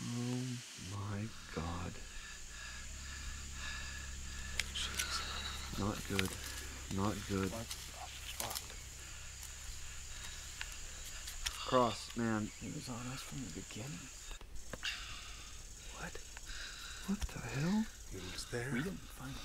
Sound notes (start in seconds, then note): 3.5 heavy breathing